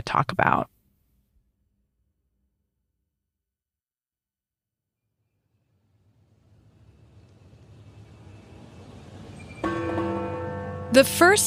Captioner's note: bell ringing in tape